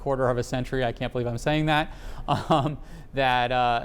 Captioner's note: laughs